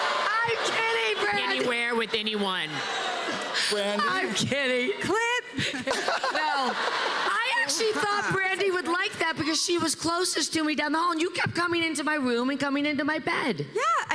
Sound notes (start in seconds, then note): 2.7 audience continues groaning; 5.5 laughter